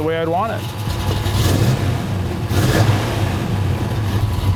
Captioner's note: engine revving